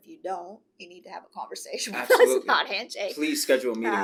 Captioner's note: laughs